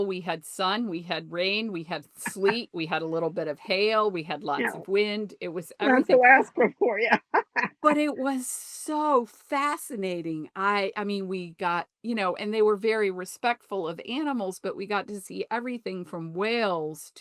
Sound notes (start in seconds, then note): 5.9 laughs